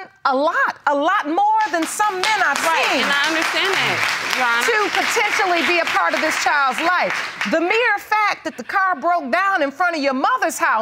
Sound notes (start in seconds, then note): 1.6 audience applauding